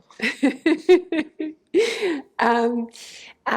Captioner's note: laughter